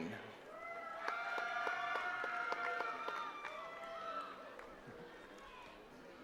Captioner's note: attendees cheering and clapping